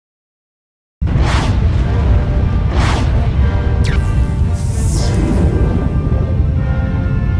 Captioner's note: space ship engines roar; dramatic orchestra music